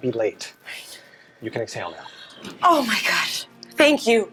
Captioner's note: sighs